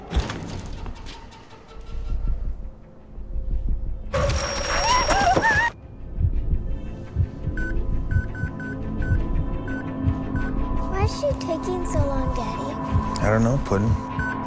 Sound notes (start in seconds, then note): 4.1 heartbeat, gravel crunching, muted screams; 8.0 rapid beeping